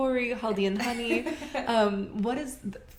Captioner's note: laughter